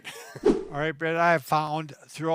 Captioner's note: laughs; air whooshes